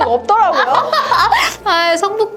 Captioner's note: laughter